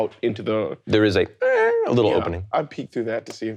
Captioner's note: imitates metal creaking